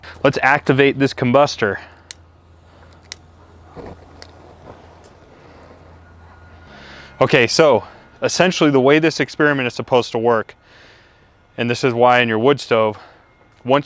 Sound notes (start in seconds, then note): 2.9 lighter clicking; 3.4 flame whooshing